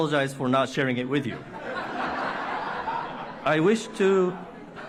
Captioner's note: laughter